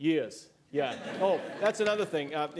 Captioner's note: laughter